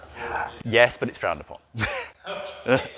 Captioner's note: laughing